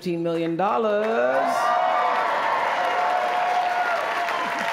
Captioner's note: cheering